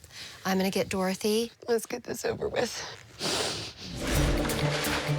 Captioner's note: sniffling